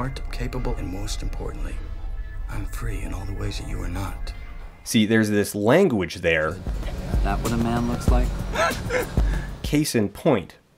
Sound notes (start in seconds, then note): 8.4 laughs